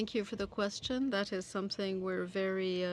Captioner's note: speaking French